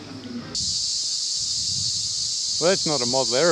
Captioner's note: cicadas buzzing